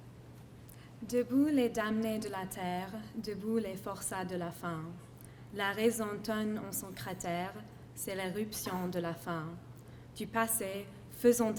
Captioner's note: foreign Language Spoken